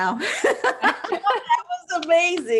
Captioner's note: laughs